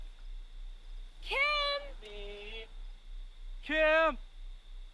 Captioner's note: person humming